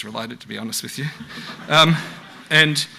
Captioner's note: audience laughs